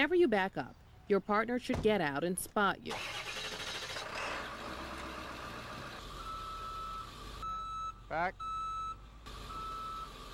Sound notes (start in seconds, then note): 4.8 engine starts; 7.4 reverse alarm beeping